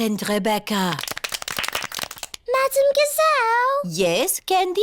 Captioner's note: all clap